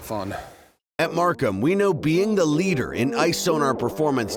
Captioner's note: voiceover